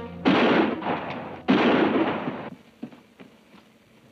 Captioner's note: gun bangs